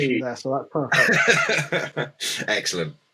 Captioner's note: chuckling